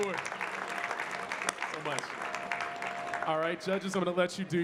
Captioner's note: audience clapping